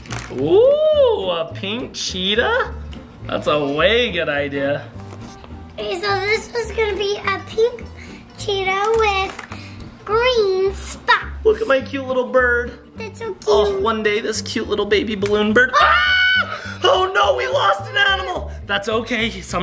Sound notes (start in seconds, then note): 15.7 screaming